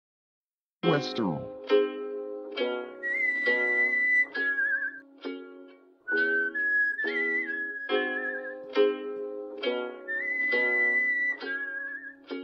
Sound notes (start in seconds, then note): 3.0 mustached whistling